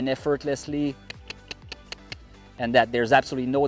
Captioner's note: clicks tongue